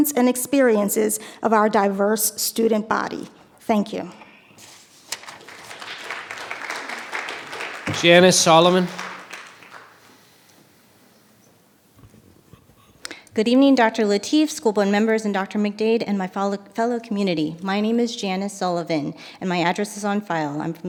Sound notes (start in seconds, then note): 5.4 audience applause